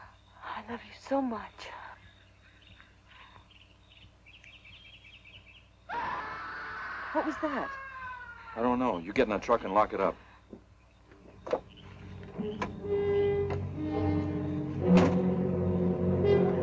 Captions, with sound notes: I love you so much. (scream) What was that? - I don't know, you get in the truck and lock it up. (suspenseful music)